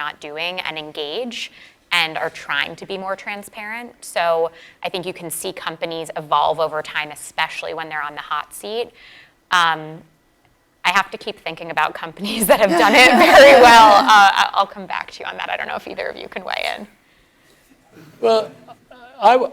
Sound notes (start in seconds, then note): 12.4 laugh